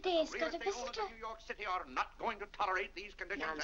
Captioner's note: Mr. Day rambling to himself